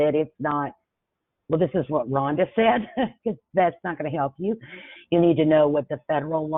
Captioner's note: chuckles